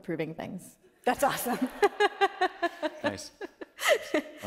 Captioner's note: laughing